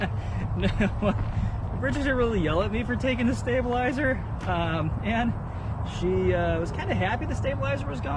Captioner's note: laughter